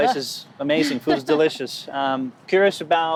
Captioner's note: laughing